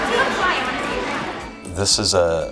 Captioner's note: children talking